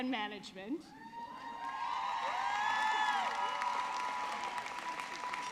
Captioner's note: audience cheering